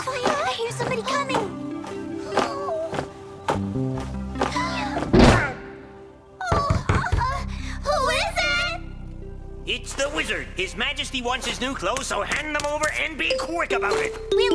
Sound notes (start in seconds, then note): 6.5 knock on the door